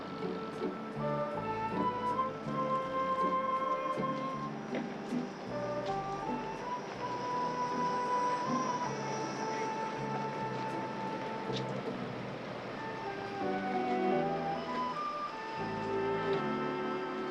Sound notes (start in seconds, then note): none